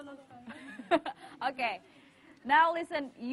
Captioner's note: laughs